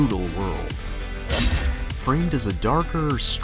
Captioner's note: sword slashing